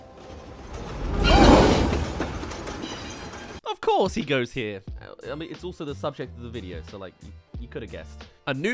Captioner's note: minecart track